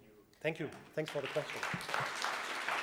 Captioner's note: audience claps